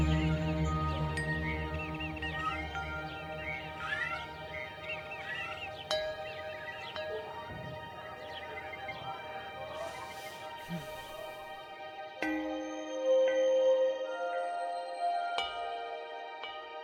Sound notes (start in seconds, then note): 3.6 cats meowing; 6.5 gentle music; 10.7 Judith sighing; 13.4 gentle music